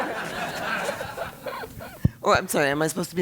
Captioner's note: laugh